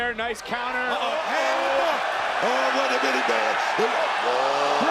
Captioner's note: crowd cheering